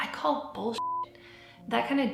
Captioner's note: beep